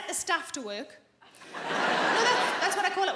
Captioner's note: audience laughing